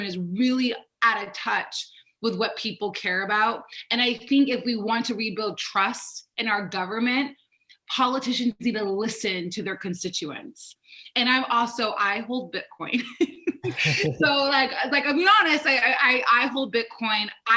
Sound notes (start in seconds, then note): 13.4 laughing